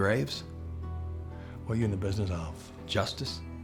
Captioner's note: scottish accent